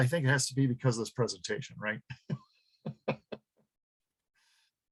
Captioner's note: laughs